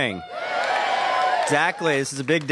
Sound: applause

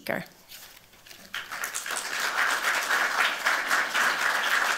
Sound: applause

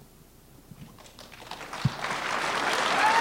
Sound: applause

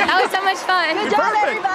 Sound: applause

